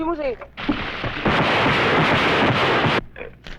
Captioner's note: non-english speech; gunfire